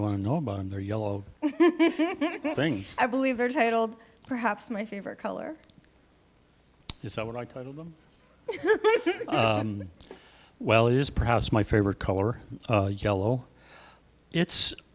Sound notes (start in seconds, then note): 8.4 laughing